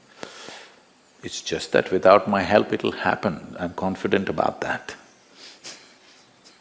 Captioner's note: laughs